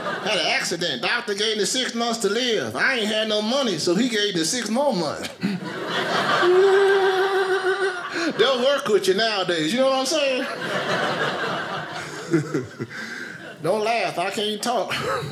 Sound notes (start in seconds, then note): 5.2 laughing; 5.2 audience laughing; 10.2 audience laughing